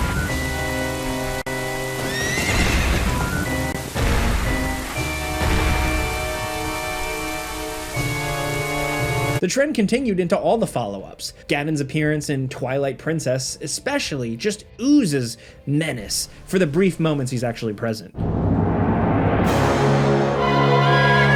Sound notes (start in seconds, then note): 0.2 offbeat dramatic music; 2.0 horse neighs; 18.1 dramatic music